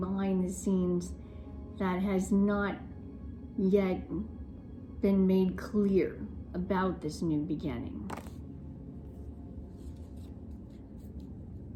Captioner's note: cards shuffling